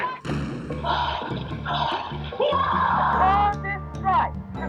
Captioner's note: exertive exclamations